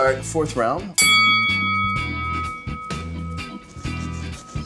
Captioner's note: bell dings